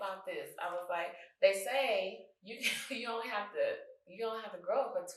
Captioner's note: chuckles